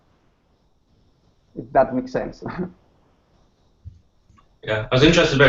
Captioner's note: laughs